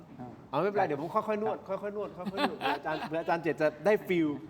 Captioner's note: laughter